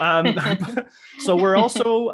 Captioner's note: laughs